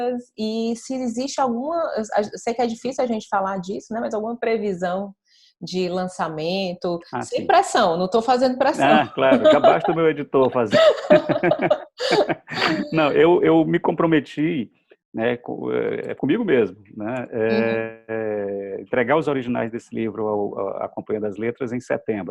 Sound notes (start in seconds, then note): 8.6 laughs